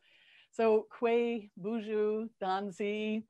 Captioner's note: speaking multiple alternate languages